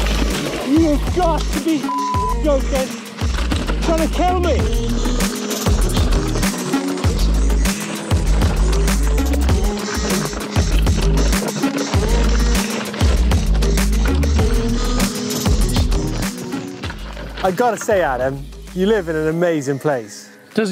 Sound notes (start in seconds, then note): 1.8 beep